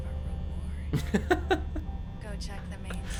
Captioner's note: laughs